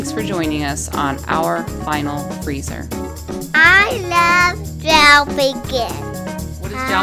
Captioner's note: child's voice